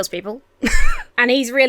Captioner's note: Emma wheezes